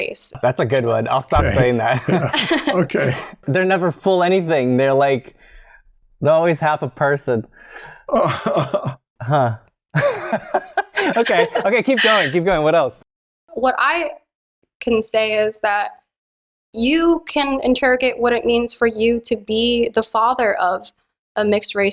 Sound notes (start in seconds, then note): 8.1 laughter